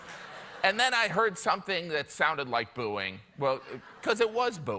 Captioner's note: laughter